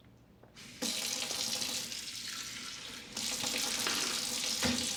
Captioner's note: water gushing